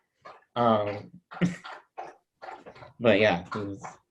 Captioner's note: dog drinking water nearby; laughs